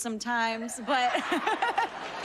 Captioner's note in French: laughter